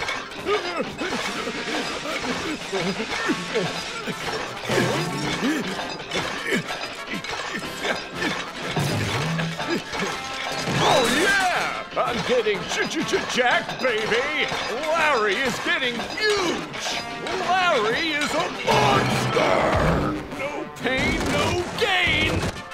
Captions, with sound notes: [grunting] [grunting] Oh yeah, I'm getting jacked baby! Larry is getting huge! Larry is a monster! No pain, no gain!